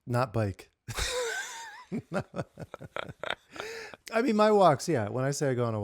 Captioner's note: laughing